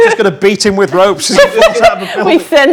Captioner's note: group laughs; overlapping chattering